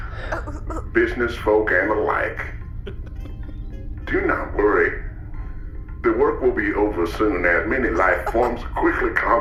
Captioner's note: laughter